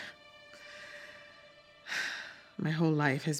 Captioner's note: sighs